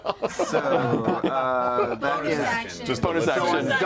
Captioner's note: laughter